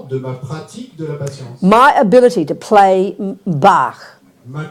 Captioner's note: speaking in French